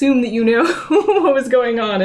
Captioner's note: laughs